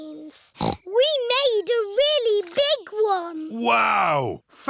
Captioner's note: snorts